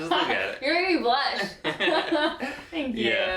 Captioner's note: laughing